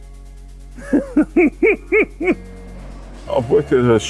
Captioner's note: laughs